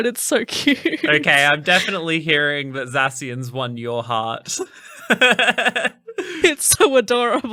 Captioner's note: laughing